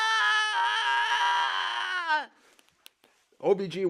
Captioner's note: patient babbles